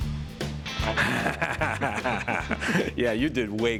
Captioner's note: laughter